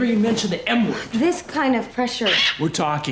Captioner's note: kitty squawks